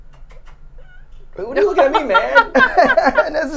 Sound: Crusty meows

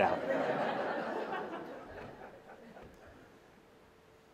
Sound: laughter

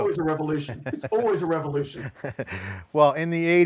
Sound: laughs

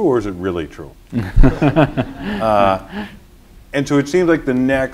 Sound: laughter

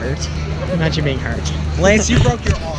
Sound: laughing

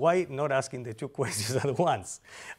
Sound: laughter

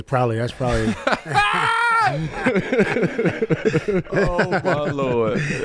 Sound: group laughs

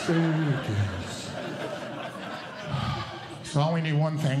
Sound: audience Laughing

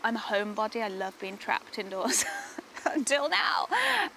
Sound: laughs

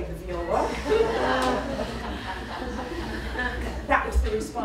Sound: laughter

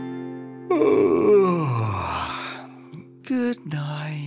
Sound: yawning

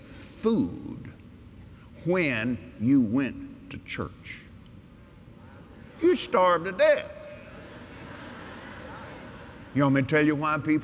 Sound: laughter

